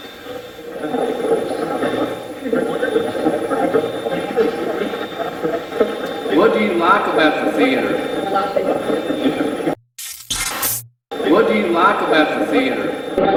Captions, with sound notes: - Very little. - Very little. (chuckles) (Steve's Box chatters) What do you like about the theater? What do you like about theater?